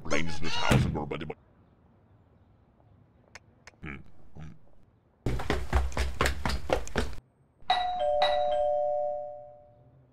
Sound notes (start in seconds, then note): 3.2 door slams; 3.8 grunts; 5.2 heavy footsteps; 7.7 doorbell